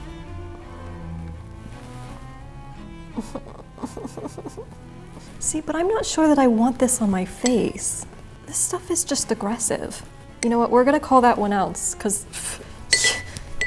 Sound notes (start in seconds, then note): 0.2 gentle bright music; 3.2 whimpering